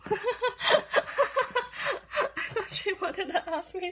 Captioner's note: laughs